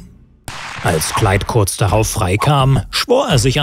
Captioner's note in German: Schüsse